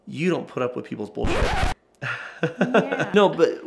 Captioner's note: scratching vinyl